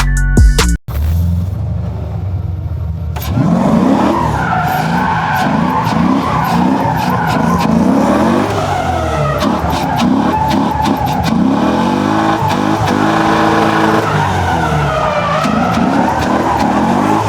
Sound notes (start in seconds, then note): 1.6 engine revving; 1.6 tires screeching